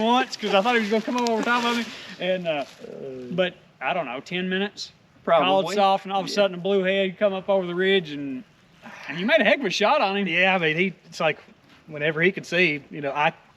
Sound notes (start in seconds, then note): none